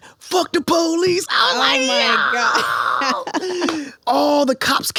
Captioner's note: laughs